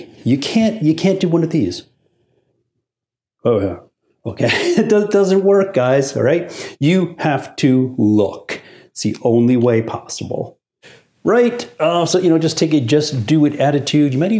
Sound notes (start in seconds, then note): 4.4 laughs